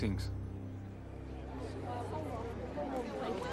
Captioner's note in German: Murmeln der Menge; Aufgeregtes Geschwätz